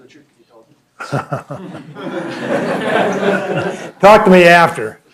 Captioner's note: laughter